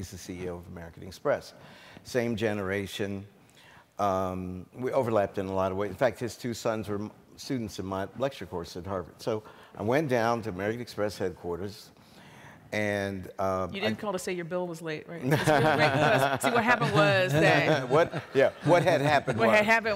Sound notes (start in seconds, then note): 15.3 laughs